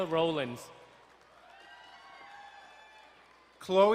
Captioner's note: crowd cheering and applauding